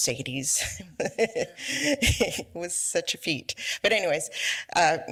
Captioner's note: laughs